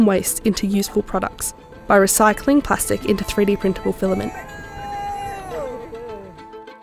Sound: people yelling out

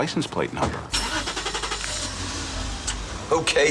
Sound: engine revs

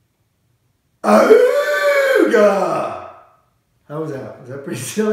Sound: makes a silly sound

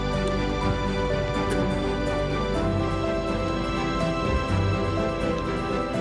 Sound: people chattering

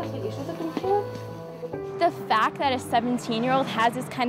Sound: medic speaking foreign language

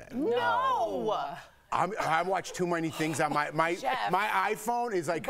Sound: laughter

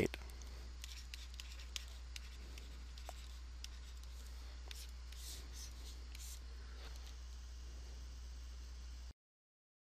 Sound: writing On Paper

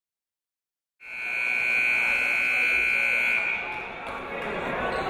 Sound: buzzer goes off

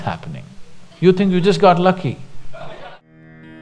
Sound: laughter

